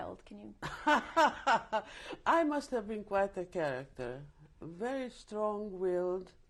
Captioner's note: laughs